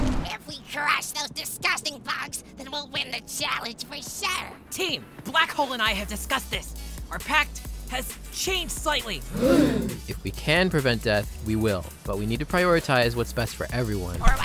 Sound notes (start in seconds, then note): 9.3 gasp